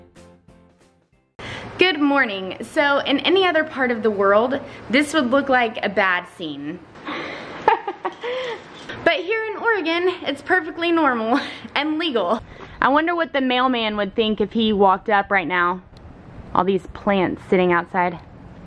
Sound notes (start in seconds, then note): 7.1 laughing